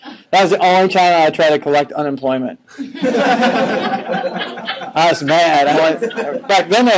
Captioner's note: laughing